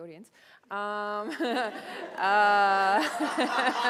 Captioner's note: laughter